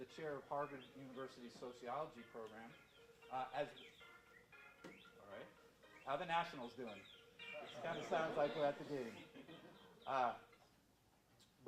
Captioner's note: phone rings in audience